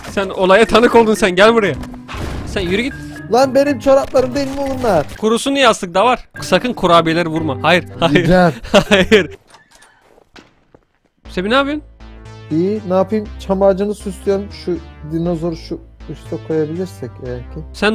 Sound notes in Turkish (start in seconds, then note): 3.3 Bağırarak; 8.1 Gülerek